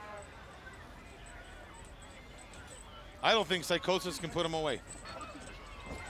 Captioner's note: crowd chatter